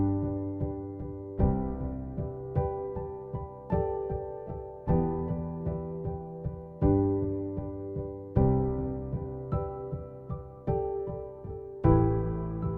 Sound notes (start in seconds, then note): none